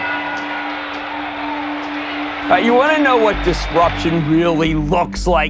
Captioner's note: bell ringing, applause, cheering